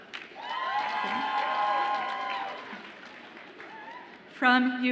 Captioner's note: audience applauds and cheers